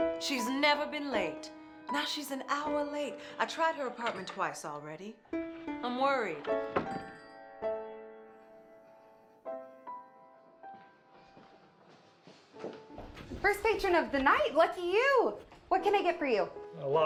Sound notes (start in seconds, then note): 6.6 door bell jingles